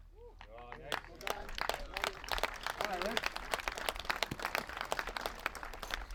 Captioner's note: applause